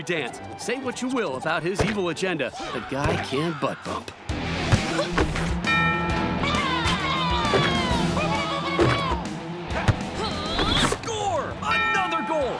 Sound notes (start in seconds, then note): 5.7 score dings; 6.4 cheering